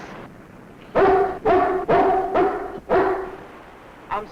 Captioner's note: dog barking